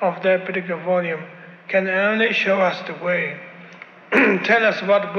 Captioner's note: clears his throat